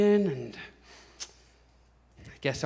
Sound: clicks tongue

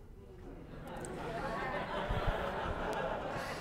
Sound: laughter

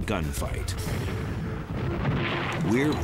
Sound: explosions

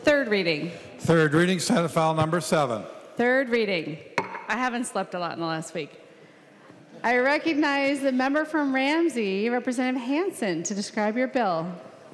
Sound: gavel

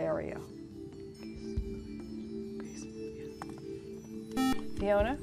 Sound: whispering

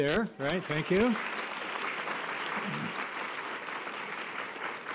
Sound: audience applause

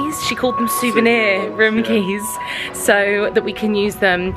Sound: none

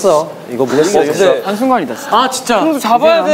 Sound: mumbling

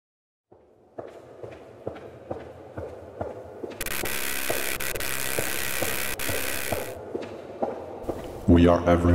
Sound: steps

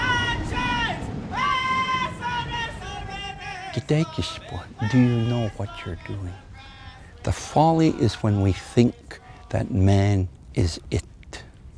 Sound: speaks Blackfoot

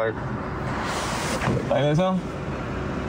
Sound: door slamming

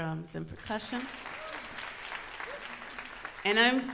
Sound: audience applauds

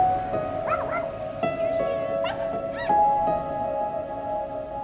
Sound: dog barking

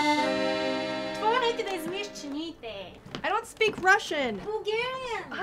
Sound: woman speaking in Bulgarian

